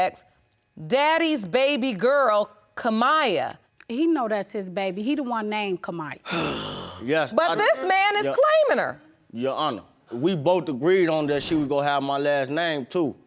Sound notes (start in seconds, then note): 6.2 sighs